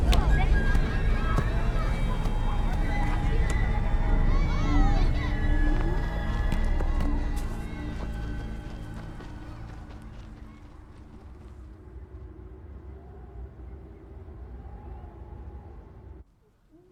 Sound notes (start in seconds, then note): 0.0 ball thwacking; 1.6 ball thuds; 4.5 foreboding music; 8.3 footsteps crunching; 13.0 wind howling